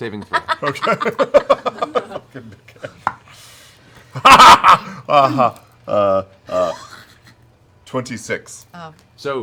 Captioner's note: laughing